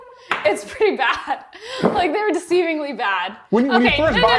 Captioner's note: chuckles